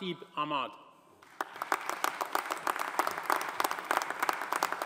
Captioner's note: audience applauding